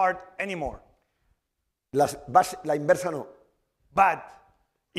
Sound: speaking spanish

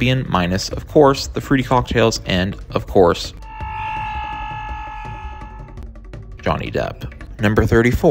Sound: Jack Sparrow’s mighty war cry

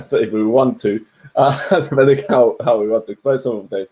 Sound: giggles

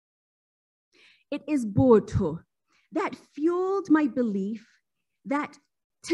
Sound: speaking foreign language

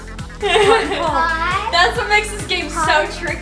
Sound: laughs loudly

